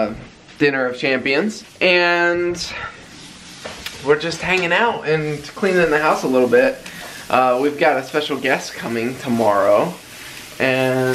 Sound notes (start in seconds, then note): none